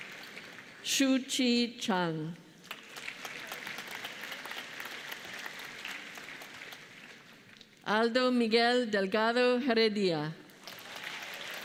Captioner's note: applause